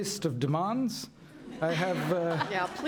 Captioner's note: laughter